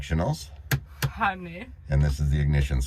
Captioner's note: button clicks